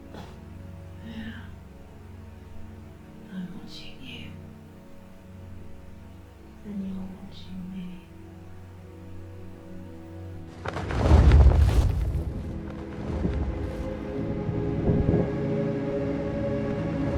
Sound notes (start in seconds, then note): 10.4 feathers flap